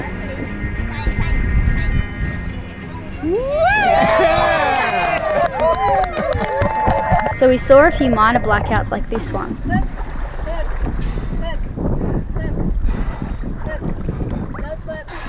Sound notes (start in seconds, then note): 3.2 everyone cheering and applauding